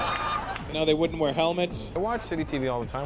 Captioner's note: laughter